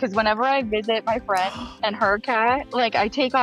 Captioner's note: gasping